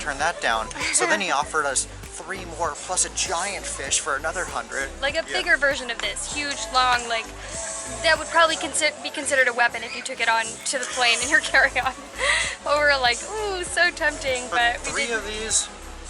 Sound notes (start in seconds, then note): 11.7 laughter